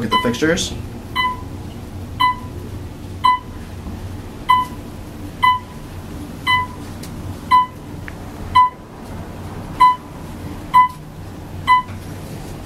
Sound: elevator hums; Otis audible signal chimes

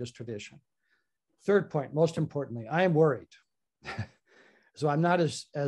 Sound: chuckles

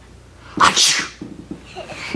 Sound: dad sneezes

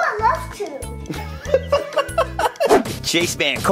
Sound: laughs loudly

